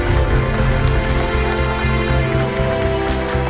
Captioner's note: applauses